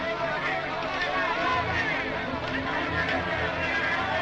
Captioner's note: soldiers shouting